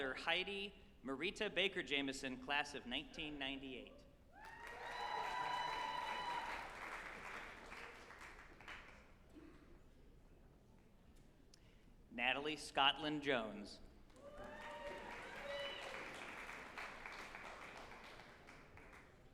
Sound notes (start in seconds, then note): 4.4 group applauding and cheering; 14.0 group applauding